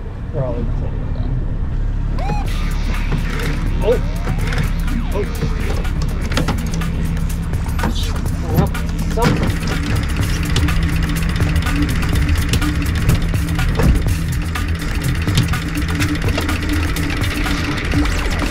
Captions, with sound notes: They're all inside of that. (upbeat music) Oh! Oh! (upbeat music continues) Well, that sucks. (motor whirring) (upbeat music continues)